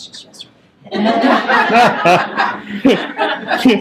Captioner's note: laughter